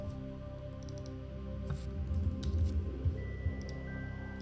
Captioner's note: mouse clicking